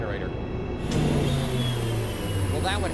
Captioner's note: power down